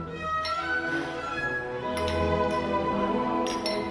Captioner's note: glasses clinking